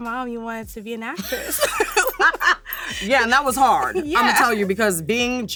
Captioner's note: laughs